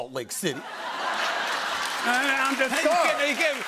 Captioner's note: laughter